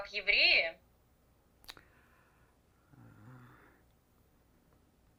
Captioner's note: pause 7 seconds